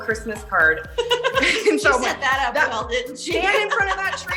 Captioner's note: laughs